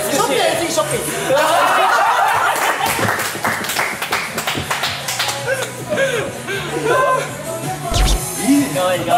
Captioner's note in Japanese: 笑い